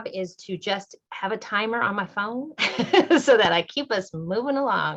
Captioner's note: laughter